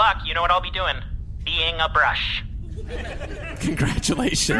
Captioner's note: audience laughter